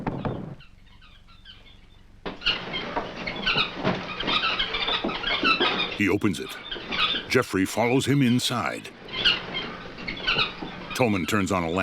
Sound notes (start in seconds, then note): 2.2 loud chirping